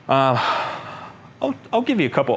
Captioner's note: sighs